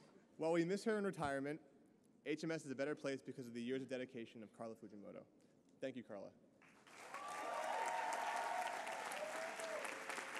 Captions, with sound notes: While we miss her in retirement, HMS is a better place because of the years of dedication of Carla Fujimoto. Thank you, Carla. [APPLAUSE]